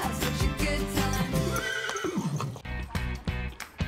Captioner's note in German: Wiehern; Lebendige Musik